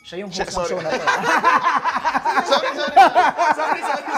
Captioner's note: laughing